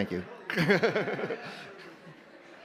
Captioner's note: laughs